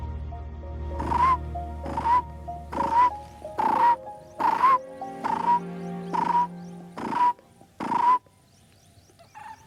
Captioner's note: mimicking bird voice